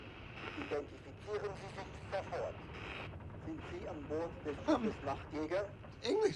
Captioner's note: man speaking in foreign language